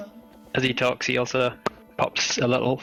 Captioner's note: pop!